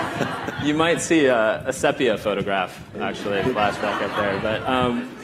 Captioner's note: laughter